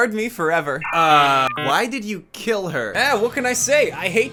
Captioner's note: dial-up noises